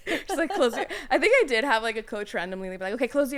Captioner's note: laughing